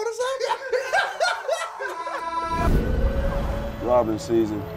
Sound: laughter

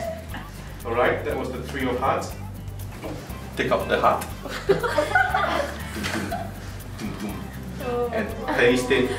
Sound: boom boom, boom boom

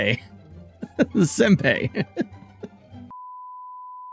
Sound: poorly spoken japanese

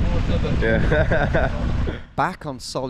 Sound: laughs

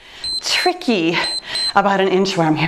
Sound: timer beeps

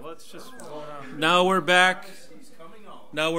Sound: overlapping chattering

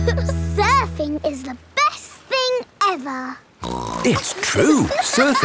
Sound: giggle; snorts

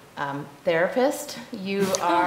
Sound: chuckling

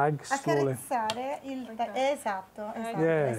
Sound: speaking Italian

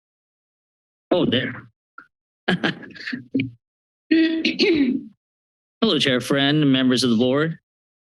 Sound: chuckles

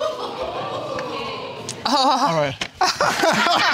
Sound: audience exclaims

